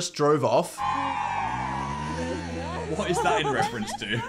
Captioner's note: crowd cheering